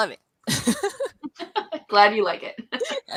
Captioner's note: laughter